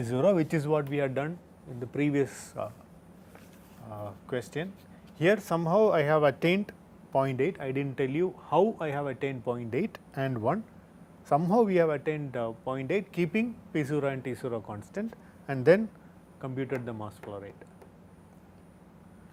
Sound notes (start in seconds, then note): 5.2 conversing